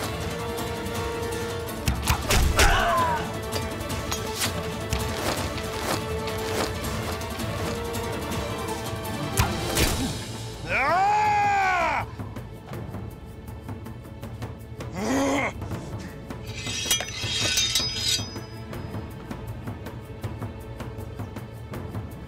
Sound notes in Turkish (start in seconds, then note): 14.8 Hırsla bağırdı; 19.1 Aksiyon müziği